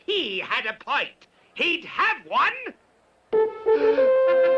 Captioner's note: Count gasps; trumpets playing